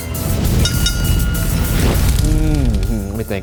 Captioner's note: bell dinging; flames whooshing